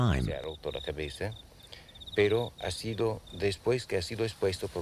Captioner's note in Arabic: الصوت المنطوق باللغة الإسبانية